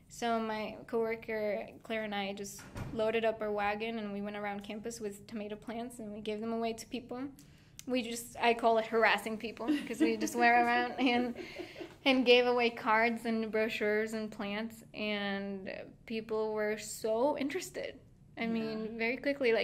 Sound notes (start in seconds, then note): 9.6 laughing